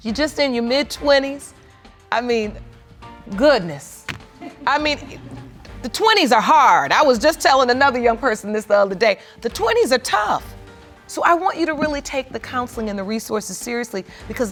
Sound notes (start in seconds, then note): 2.2 audience laughs